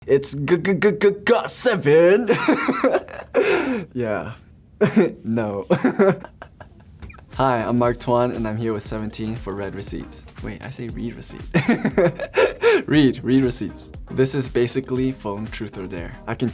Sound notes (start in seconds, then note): 2.0 laughs; 5.6 laughs; 11.5 laughs